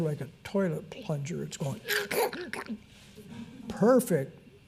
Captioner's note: mouth gurgling and sucking